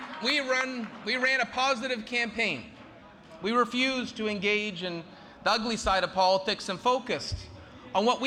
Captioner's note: cheering and applause